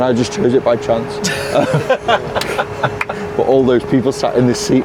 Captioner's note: all laughing